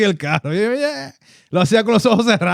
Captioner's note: speaking Spanish